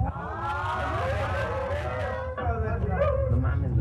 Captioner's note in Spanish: risas